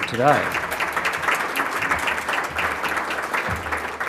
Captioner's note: audience applauding